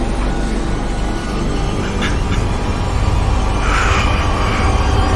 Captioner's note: soft sobbing